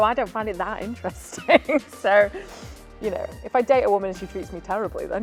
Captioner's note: laughs